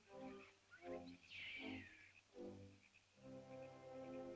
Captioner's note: soft ominous music; small animal screeches; soft ominous music